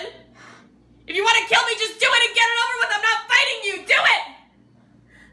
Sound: yelling

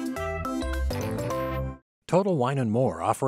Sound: none

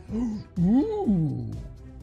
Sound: jack gasp

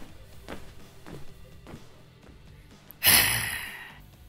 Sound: tv in the distance

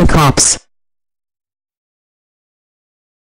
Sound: silence

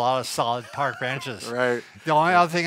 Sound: laughs

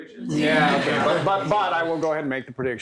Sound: laughter

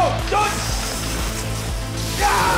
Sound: fire smolders

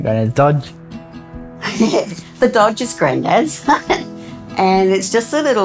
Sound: laughing

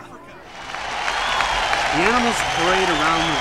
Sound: קהל מריע

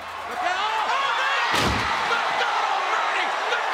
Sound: crowd cheering

